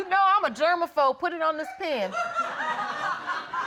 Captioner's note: audience laughing